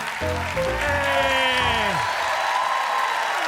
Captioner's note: cheers and applause